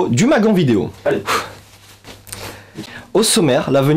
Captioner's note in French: Bref soupir